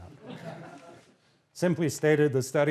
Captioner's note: laughter